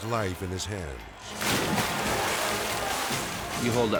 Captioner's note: dramatic music; cycle splashing